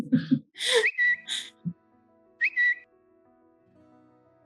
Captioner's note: alert whistles